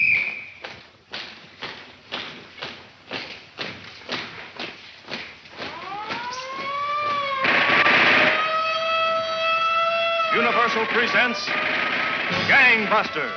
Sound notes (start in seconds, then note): 0.0 footsteps tapping; 5.5 siren blaring; 6.9 gunshots banging